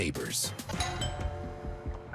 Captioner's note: doorbell dings; dialer beeps